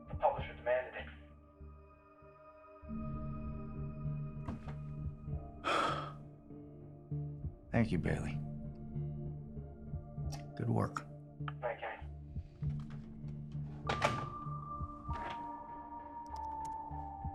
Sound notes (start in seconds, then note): 5.6 Kenny sighs; 13.9 pensive music